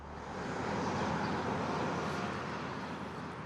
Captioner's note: traffic hums